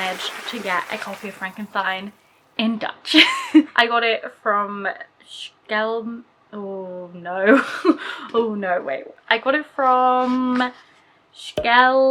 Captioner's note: applause